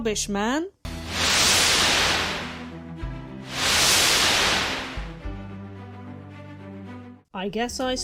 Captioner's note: whoosh sound effect